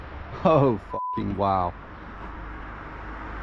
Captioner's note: beep